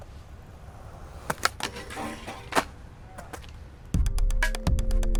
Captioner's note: skateboard grinding; upbeat music